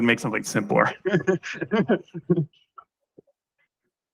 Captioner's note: laughs